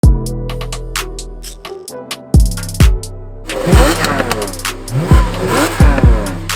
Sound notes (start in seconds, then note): 3.4 vvvrrrrrrRRRRRRROOOOOOOOMMMMMMMM!; 5.9 vvvvrRRRRRROOOOOMMMM-RRRRRROOOOMMMMM!